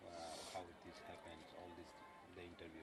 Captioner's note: sniffles